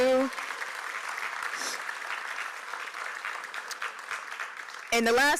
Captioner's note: applause